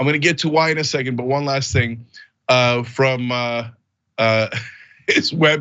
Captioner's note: laugh